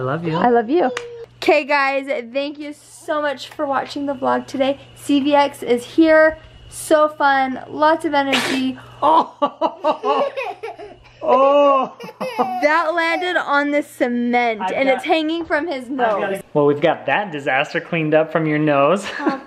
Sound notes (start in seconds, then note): 8.3 sneeze; 9.0 laughing